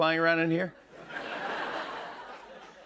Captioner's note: laughter